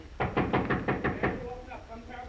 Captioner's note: knocking on door